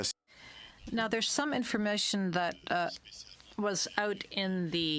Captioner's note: speaking French